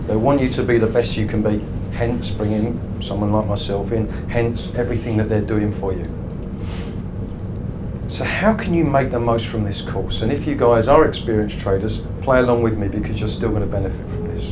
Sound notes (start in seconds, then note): none